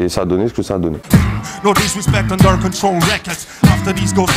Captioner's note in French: beatbox